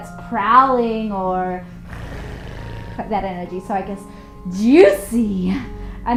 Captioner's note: purring